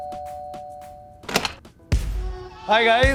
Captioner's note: door opening